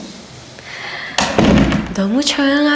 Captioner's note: the sound of the door closing